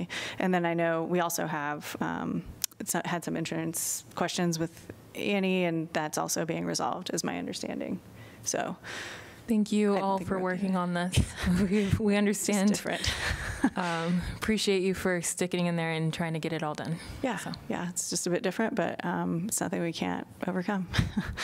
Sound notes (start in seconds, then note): 13.0 laughter